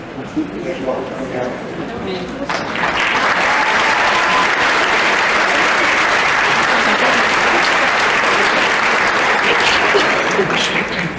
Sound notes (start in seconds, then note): 2.5 cheering and applause